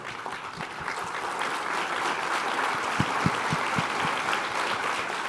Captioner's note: applause